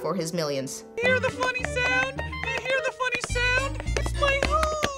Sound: voice in falsetto

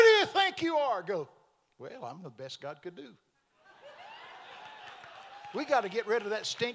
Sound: congregation laughing

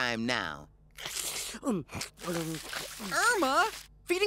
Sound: slurps

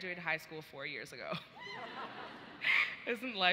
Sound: audience laughs

